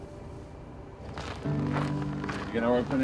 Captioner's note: snow crunching